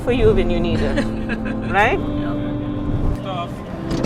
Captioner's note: laughter